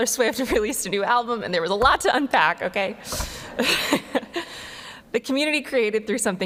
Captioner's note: laughs